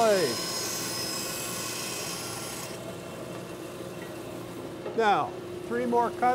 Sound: tool noise

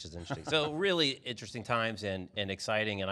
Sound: laughs

